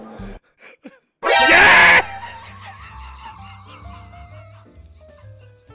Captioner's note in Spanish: grita mucho